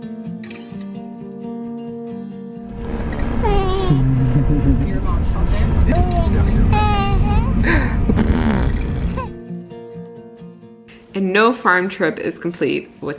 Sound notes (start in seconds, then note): 3.1 baby cooing; 7.6 blowing raspberries; 10.3 tranquil music